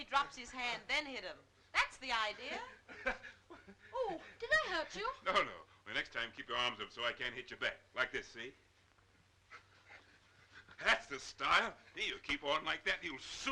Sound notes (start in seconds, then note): 2.6 Joe laughing